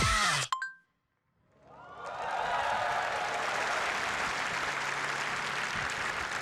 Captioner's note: applause